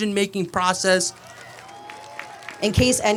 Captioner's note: applause